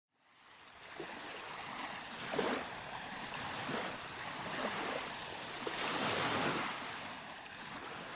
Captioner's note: sounds of waves